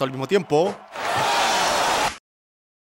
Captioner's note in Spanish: Gritos de la audiencia; Silencio